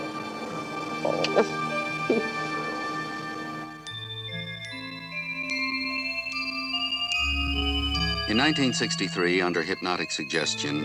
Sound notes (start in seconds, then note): 1.0 lips smacking; 1.1 Betty giggles; 3.8 stirring music